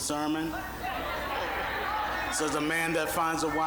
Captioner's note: audience laughing